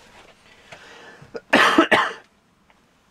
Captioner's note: cough